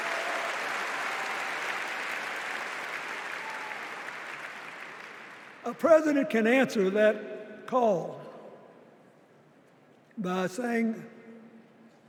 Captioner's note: applause